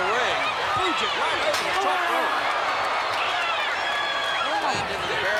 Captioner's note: head thudding; crowd cheering